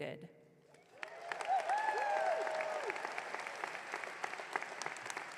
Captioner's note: audience cheering